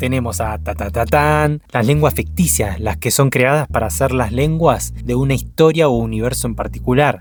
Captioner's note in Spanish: tarareo